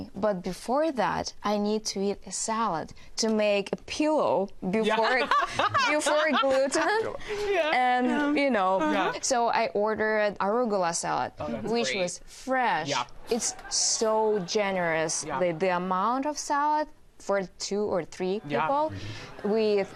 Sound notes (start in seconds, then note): 4.9 all laughing